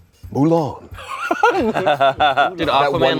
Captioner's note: everyone laughs